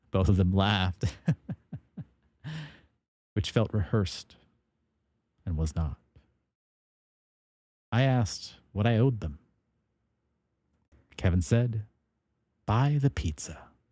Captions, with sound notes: Both of them laughed. (Laughs) Which felt rehearsed. And was not. I asked what I owed them. Kevin said, buy the pizza.